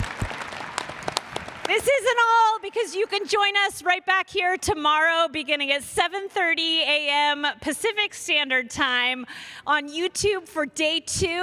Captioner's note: cheers and applause